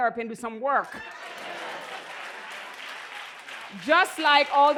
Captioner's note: laughter